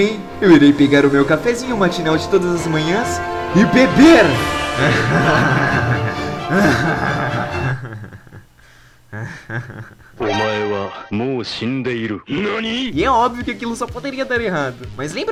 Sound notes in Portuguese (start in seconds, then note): 4.6 risadas maléficas